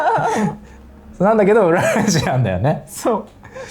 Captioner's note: laughs